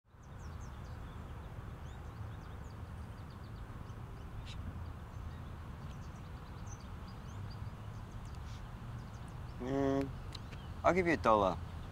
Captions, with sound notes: (birds chirping) Mmm, I'll give you a dollar.